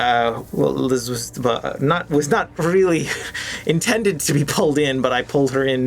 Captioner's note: stammers